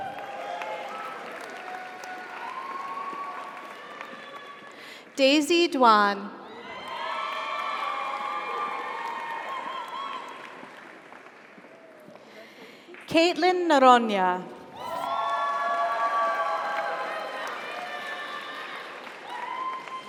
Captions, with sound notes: (audience applauds) (audience cheers) Daisy Duan. (audience applauds) (audience cheers) - Congratulations. - Katelyn Nooronha. (audience applauds) (audience cheers)